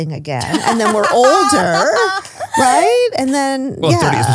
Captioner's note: laughs